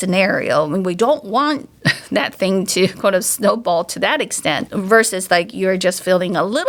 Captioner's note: chuckles